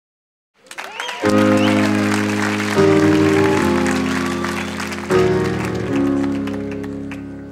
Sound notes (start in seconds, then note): 0.6 audience cheering; 0.6 audience applauding